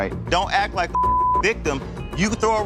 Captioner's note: beep